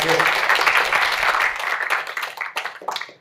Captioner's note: applause